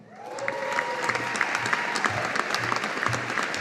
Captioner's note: audience applauding